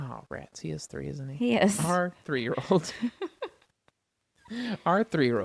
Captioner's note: laughs